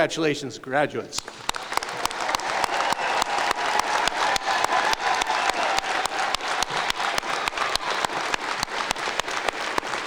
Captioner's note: applause